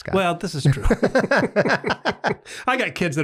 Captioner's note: everyone laughs